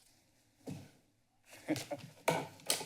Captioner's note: pause; chuckles